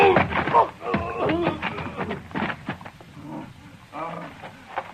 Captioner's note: screaming